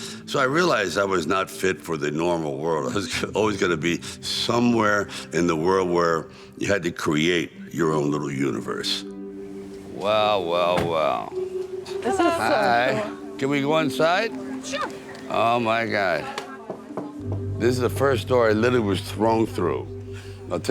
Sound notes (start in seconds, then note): 16.6 knuckle knocking